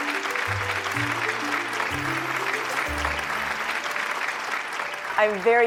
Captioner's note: audience clapping